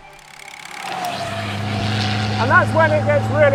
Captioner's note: car engine roaring